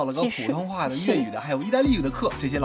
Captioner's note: speaking in Mandarin